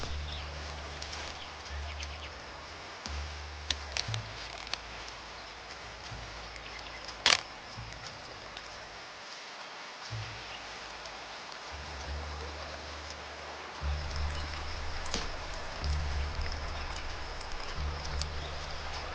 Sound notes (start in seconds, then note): 0.1 body slumping; 6.3 camera clicking; 18.9 bracelet jingling